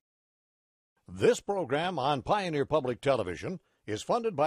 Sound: voiceover

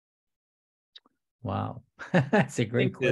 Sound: laughs

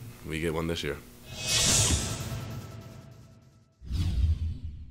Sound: sound effect

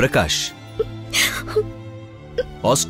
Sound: crying

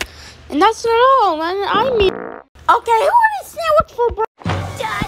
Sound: farts

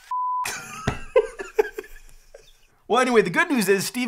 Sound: laughs

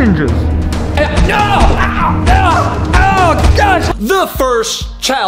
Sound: shouts in pain

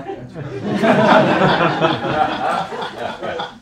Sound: laughter

